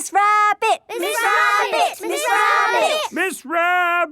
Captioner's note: all chanting